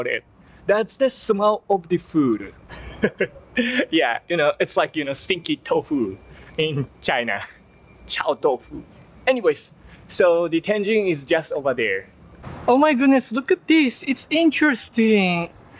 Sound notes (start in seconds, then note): 2.7 laugh